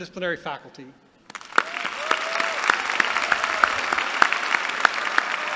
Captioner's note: applause